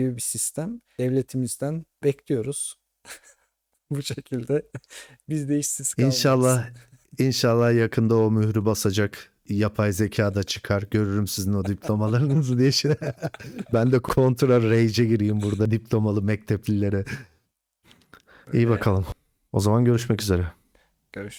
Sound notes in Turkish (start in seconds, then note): 13.0 homurdanır